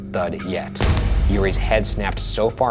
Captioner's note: thud bangs